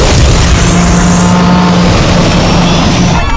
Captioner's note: alarm blaring; engine sputters